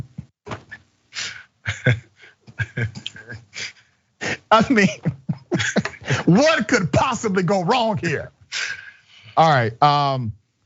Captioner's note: laugh